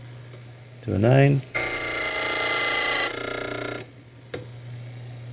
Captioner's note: drilling sound